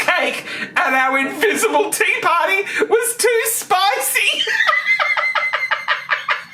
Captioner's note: laughing